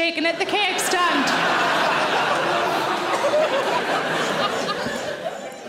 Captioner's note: audience laughing